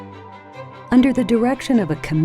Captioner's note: voiceover